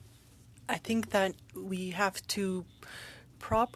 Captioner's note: speaking French